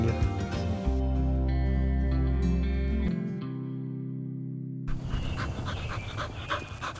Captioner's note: gentle music; dog breathing heavily